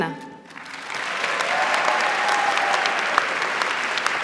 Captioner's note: applause